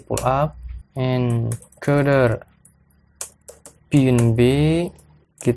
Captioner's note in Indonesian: typing code